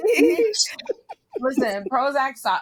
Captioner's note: laughing